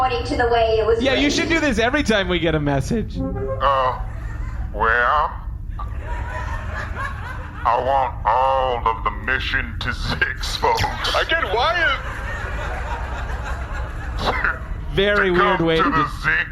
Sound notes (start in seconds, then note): 2.9 message plays